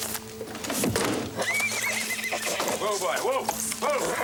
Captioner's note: drawer thuds; horse neighs